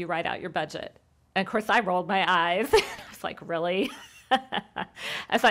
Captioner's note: laughs